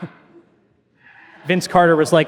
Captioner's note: audience laughing